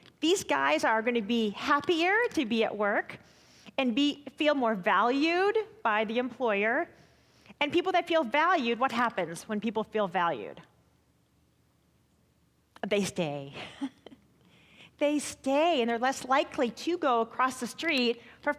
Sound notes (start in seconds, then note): 13.6 chuckling